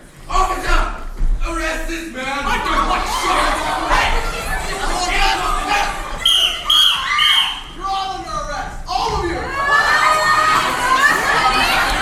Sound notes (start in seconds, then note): 3.7 crowd commotion; 6.2 whistle blows x3; 6.7 screaming; 9.8 crowd commotion